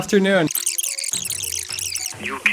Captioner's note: record scratching